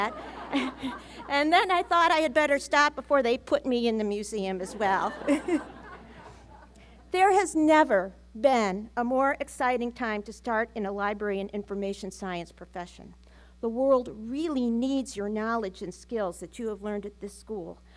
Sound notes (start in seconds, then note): 0.2 laughter